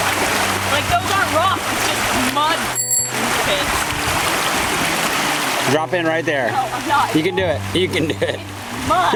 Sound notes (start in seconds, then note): 2.7 bell dings